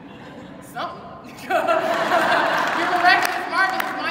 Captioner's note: audience laughing